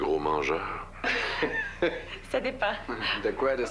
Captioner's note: Rires